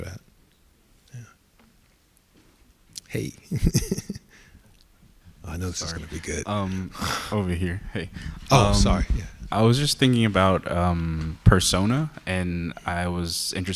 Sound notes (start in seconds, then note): 9.0 laughs